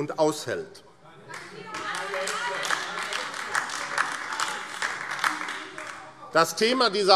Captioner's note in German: Beifall AfD - Zuruf: Keine Hetze! - Weitere Zurufe